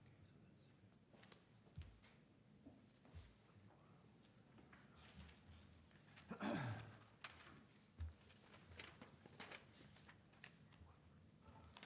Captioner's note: speaking away from mic